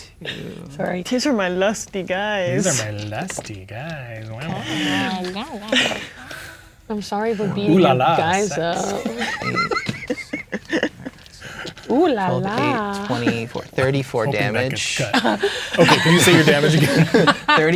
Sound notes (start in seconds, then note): 9.3 players laughing; 16.9 players laughing